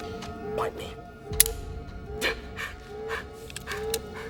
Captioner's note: gun clicks